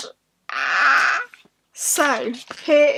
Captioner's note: screeeeee